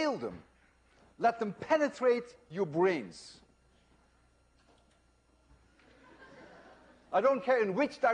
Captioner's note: laughter